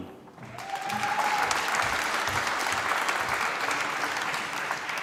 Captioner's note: applause